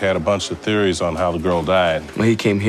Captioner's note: none